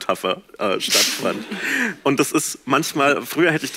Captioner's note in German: Lachen